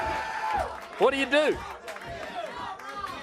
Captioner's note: crowd cheering